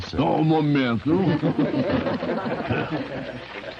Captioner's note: laughter